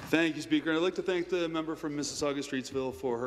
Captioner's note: some Applause